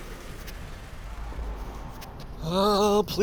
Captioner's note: whirring, taking off; running